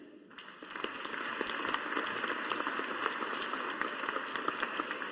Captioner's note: audience applauding